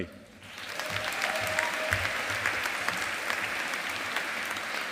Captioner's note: audience applauding